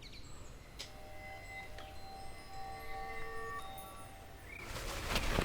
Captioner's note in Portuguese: Tilintar suave; Chiado de carpete